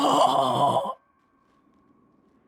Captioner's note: silence